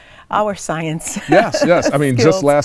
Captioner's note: laughs